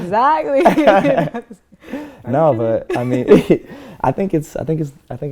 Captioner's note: laughter